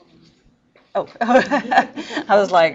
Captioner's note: teacher laughs